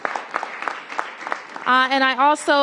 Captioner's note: applause